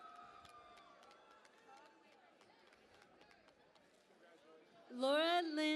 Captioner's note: cheering and Applause